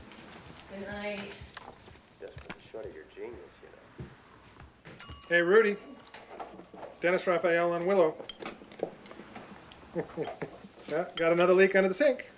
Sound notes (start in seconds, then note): 5.0 toaster chimes; 9.6 chuckles